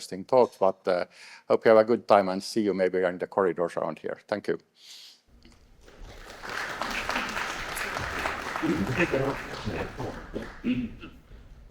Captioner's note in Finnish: Suosionosoituksia